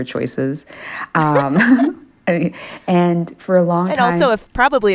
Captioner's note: laughter